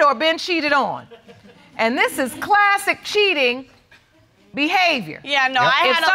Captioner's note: audience chuckles